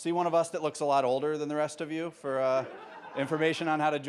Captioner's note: audience laughing